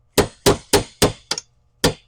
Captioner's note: hammer banging